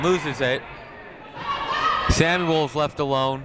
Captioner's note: people shouting in the crowd